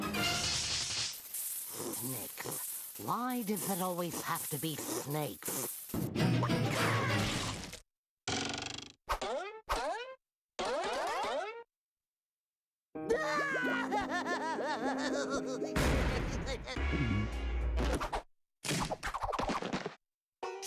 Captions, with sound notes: [hissing] SNAKES. WHY DOES IT ALWAYS HAVE TO BE SNAKES? [crying]